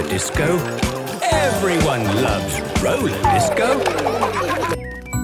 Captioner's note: laughter